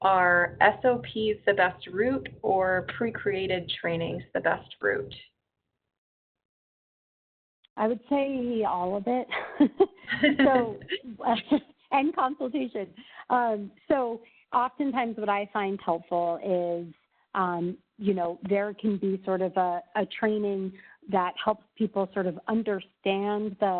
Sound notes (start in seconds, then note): 9.3 chuckles